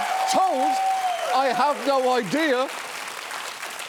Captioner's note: cheering continues; studio audience cheering